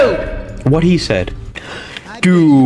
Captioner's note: inhales Oxygen